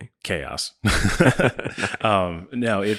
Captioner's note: laughing